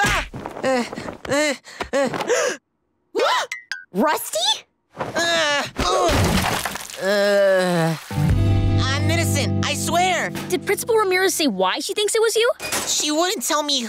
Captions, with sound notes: [groaning] [gasping] Rusty?! [groaning] I'm innocent, I swear! Did Principal Ramirez say why she thinks it was you? She wouldn't tell me who,